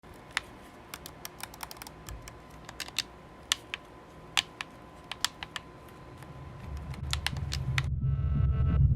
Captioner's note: controller clicking